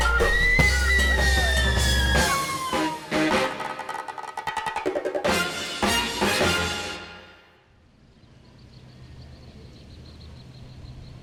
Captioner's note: screaming